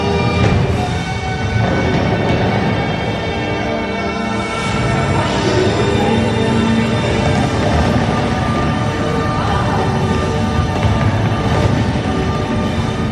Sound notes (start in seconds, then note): 1.6 fireworks cracking